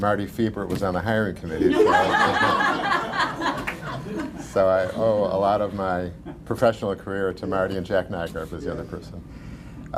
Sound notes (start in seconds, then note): 4.5 laughter